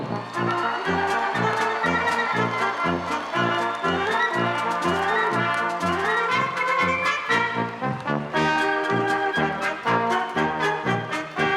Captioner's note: applause, cheering; orchestral music